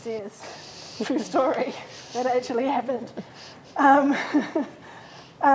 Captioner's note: laughs